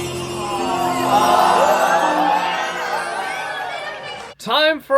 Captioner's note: crowd cheering